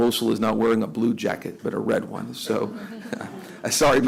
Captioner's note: laughter